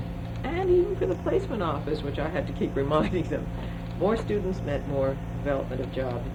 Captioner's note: laughs